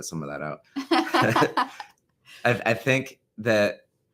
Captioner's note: laughs